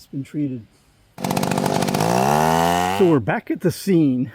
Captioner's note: sound of Chainsaw reving